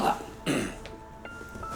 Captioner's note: clears throat